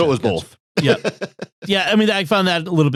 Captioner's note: laughing